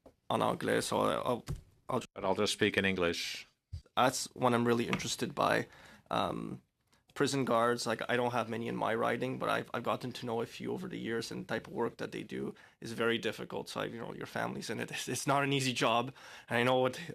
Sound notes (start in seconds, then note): 2.9 speaking French